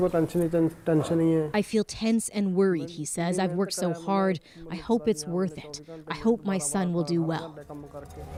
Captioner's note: speaking alternate language